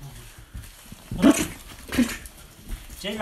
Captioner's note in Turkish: inek kovalama sesi